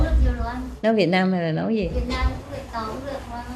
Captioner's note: Vietnamese